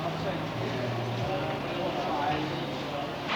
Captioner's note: busy street sounds